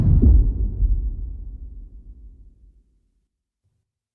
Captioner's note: dramatic sound